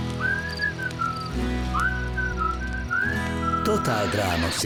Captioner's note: whistling